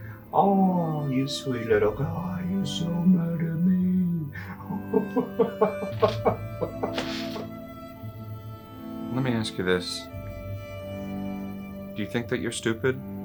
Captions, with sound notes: Oh you sweet little guy, you're so mad at me-- (Ludlow laughs) Let me ask you this- Do you think that you're stupid?